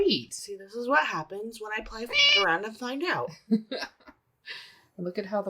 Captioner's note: meow